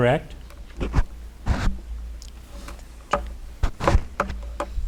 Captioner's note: light clattering